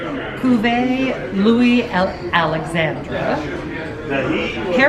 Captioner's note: reads in foreign language